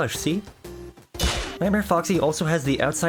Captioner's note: TF2 Crit